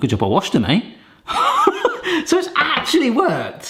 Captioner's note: laughs